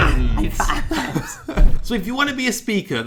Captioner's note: laughing